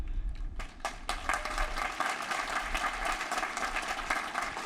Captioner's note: applause